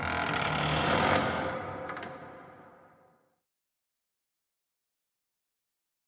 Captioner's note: door opens